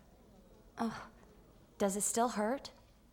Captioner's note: Iris whimpers